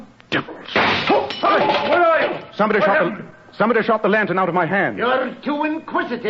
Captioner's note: shot, broken glass